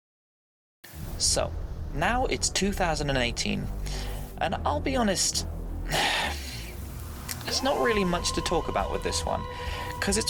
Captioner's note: sigh